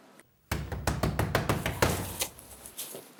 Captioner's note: door knocking